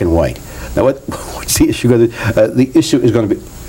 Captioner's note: laughs